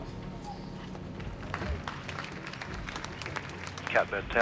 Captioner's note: team clapping